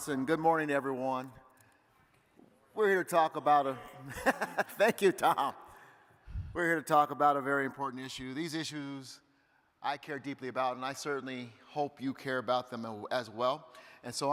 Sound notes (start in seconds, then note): 3.9 faintly speaking; 4.0 laughing